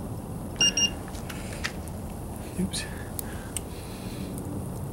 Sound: thermometer beeps

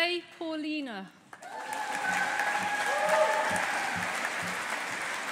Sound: audience applauding

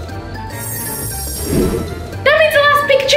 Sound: twinkling

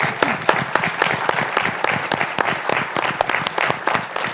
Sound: applause

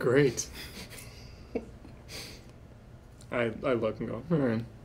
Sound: laughing

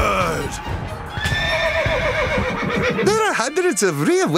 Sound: neigh

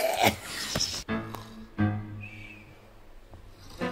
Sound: snoring

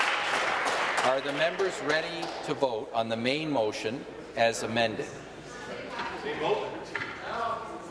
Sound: applause

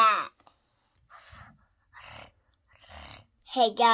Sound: making purring sounds

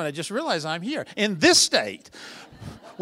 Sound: laughter

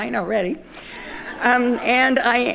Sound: audience laughing

